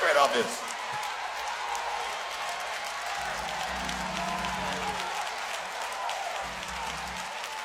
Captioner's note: audience applauds loudly